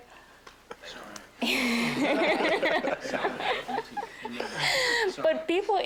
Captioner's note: students laughing